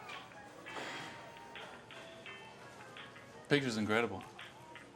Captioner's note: upbeat music; guy sighs